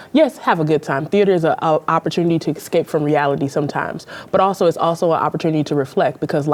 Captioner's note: none